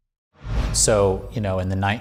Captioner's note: air whooshing